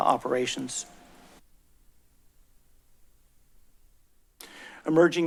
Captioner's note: silence